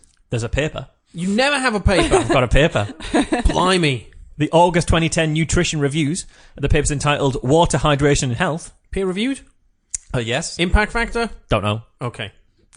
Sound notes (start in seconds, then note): 1.9 laughs